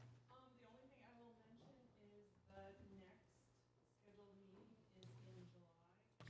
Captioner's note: away from microphone